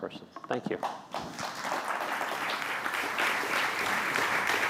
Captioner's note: applause